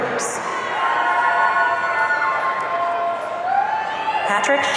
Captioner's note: audience cheering